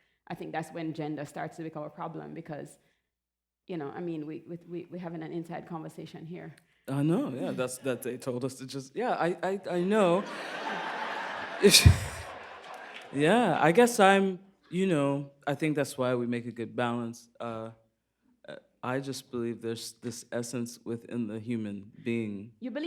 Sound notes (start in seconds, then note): 10.0 laughter